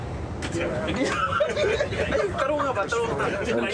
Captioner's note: passengers laughing